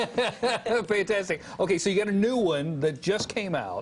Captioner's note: laughter